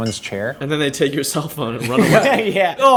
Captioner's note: laughter